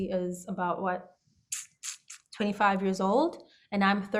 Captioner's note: tongue click